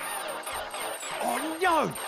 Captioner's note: engine stalls